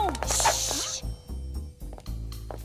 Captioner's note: gasps